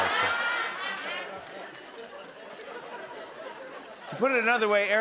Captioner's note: laughter